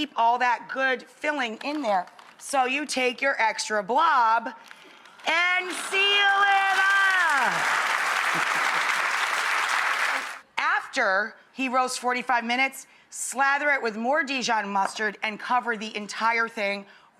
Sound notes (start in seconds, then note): 5.7 audience cheers